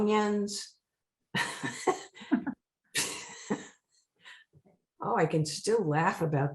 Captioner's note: laughing